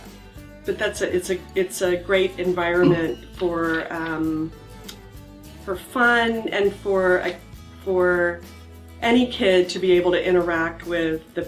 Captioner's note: pat